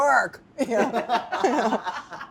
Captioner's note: everyone laughs